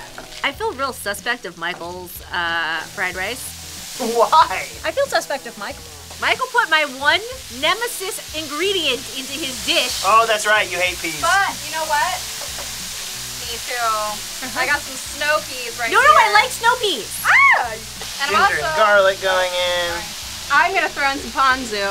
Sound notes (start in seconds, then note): 17.0 squeals